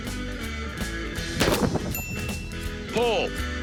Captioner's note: bell ding